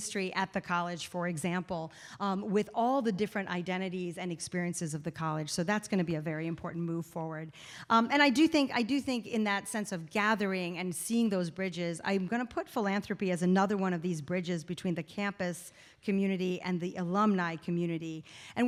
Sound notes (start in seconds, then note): none